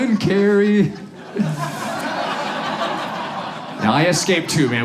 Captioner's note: audience laughs